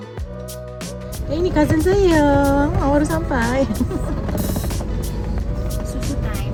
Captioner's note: background music; laugh